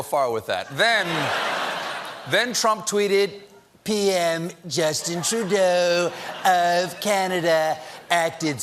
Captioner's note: laughter